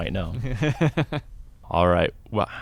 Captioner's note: laughs